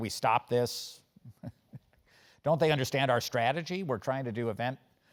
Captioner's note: laugh